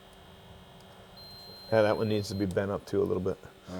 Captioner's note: machine beeps